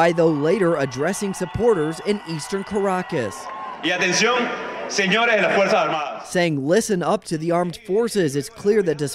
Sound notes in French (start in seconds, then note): 4.9 cheering